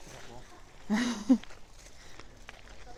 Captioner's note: laughs